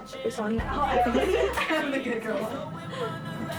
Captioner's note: laughter